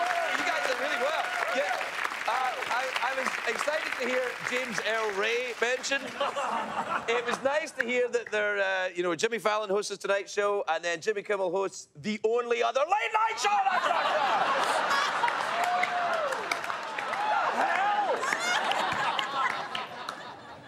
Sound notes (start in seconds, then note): 13.6 laughter